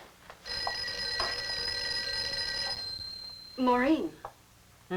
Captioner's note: phone ringing